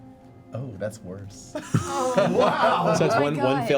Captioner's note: laughter